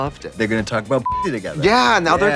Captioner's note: beeping